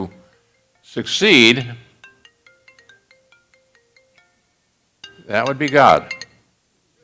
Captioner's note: cell Phone Rings